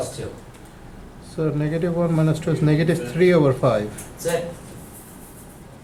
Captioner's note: voiceover